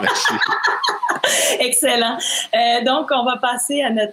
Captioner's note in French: rires